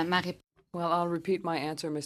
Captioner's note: speaking French